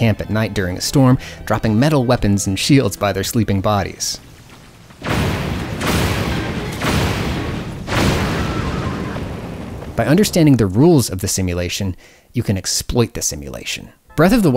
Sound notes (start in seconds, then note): 4.2 a series of massive explosions and bokoblin screams